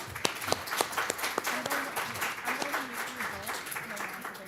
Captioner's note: applause